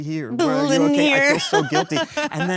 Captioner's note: laughs